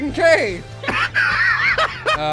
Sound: laughter

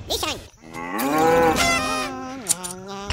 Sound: bird hummig

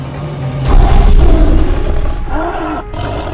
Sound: thudding

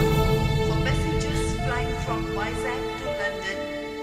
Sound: flight announcement

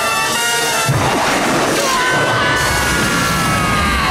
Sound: screaming

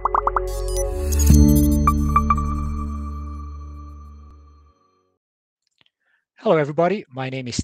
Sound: symbols popping; bright music; machine beeping

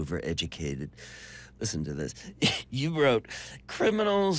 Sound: laughs

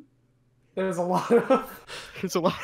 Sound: laughs

